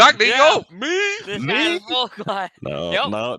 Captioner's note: laughs